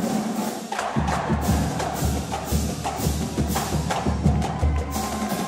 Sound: people cheering

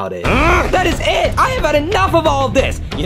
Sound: grunts

